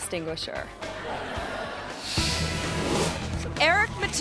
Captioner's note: audience laughing